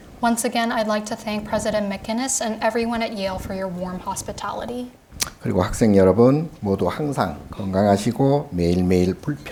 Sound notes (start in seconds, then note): 5.3 speaking Korean